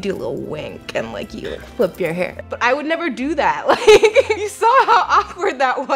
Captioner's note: laughs